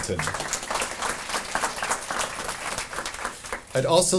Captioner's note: audience applauding